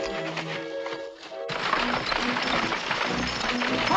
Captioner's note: cart rattling